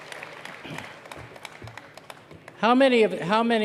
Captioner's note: cheers and applause